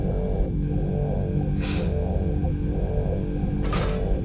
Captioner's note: sighs